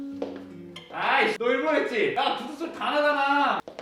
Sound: the sound of shoes

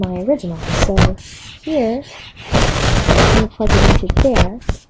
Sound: microphone rustling

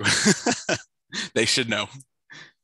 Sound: laughter

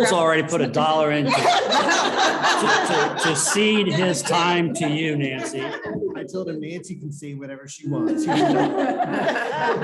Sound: laughter

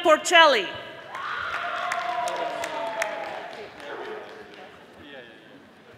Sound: audience applauding

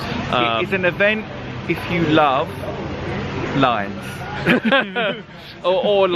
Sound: laughs

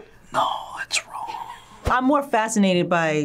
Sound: whispers

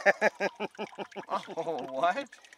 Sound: laughing

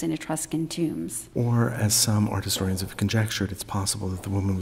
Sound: voiceover

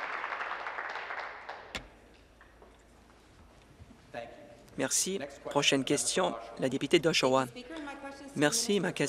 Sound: applause

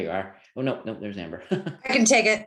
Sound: laughs

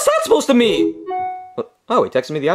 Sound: phone dings

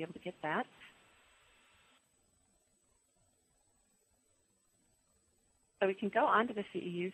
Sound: pause

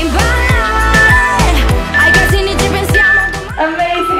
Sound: timer beeping

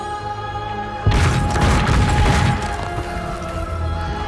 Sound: sound of fire and explosions

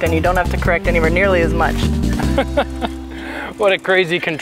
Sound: chuckling

